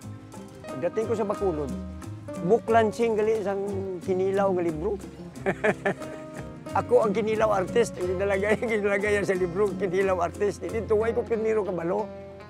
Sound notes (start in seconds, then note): 5.3 chuckles